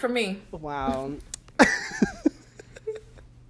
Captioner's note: laughs